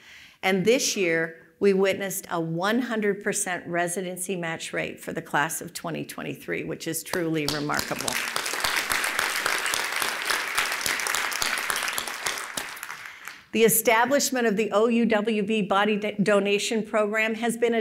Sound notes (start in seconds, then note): 7.4 applause